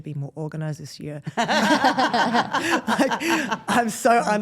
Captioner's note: group laughs